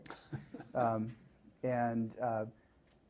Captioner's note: laughter